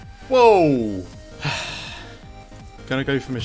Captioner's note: exhale